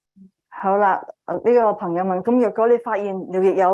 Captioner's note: speaking chinese